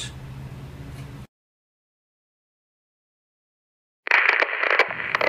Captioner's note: radio tuning